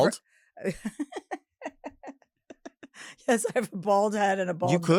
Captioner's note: Chelsea laughs